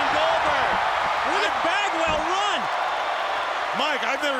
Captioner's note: crowd cheering